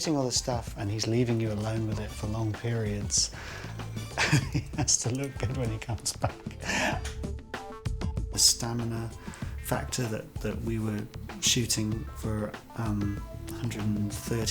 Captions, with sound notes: and he's leaving you alone with it for long periods, (CHUCKLING) and he has to look at it when he comes back. The stamina factor that we were shooting for 130-odd days